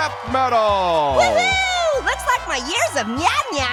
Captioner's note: audience cheers; cheers